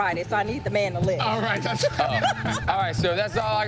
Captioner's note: laughter